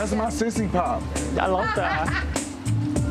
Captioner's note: person laughs; chill hip-hop music